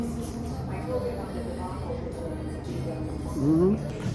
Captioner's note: customers chatting in the background